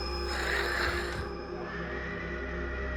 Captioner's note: hissing; screaming